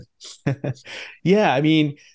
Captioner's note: laughs